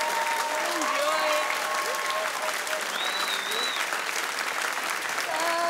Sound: applause

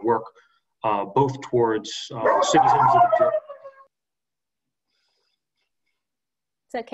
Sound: dog barks voraciously

